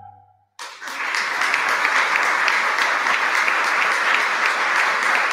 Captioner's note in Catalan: aplaudiments i ovació del públic